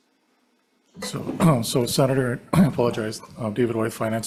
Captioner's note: clears throat